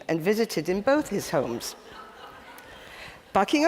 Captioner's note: audience titters